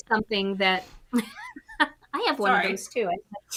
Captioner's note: chuckles